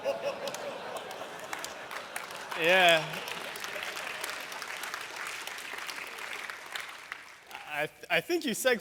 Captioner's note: laughter, applause